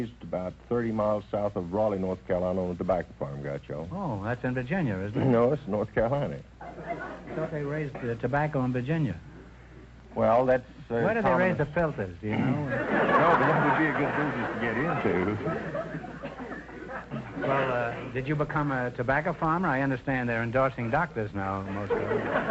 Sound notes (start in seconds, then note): 6.6 audience laughter; 21.7 audience laughter